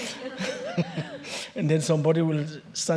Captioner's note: chuckles